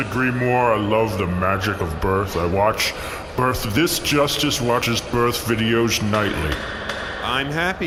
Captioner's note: bangs gavel